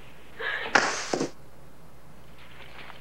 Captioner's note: gasp; thud